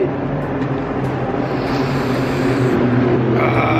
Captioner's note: truck Passing